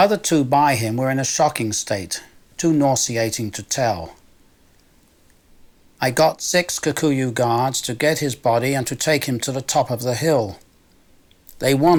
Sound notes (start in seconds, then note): none